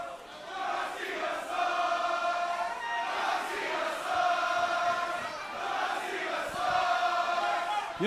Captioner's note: fans chanting